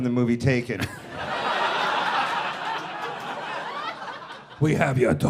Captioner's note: people laughing